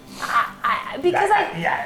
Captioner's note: babbles